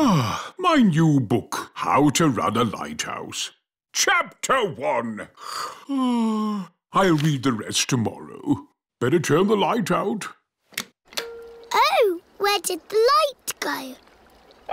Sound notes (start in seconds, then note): 5.8 yawns